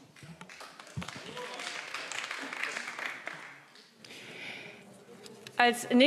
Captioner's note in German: Beifall BÜNDNIS 90/DIE GRÜNEN